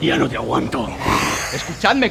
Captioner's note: hisses